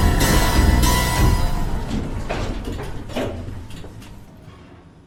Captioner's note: doors clattering